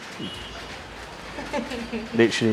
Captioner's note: laughing